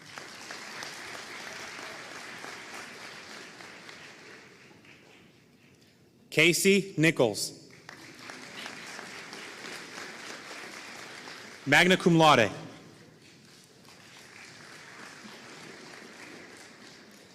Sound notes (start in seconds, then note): 0.0 audience applauding; 13.0 audience applauding